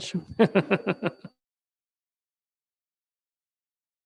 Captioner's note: Mayor laughs